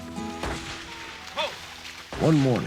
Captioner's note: gun shot